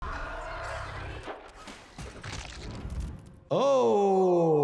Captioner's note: eerie screeching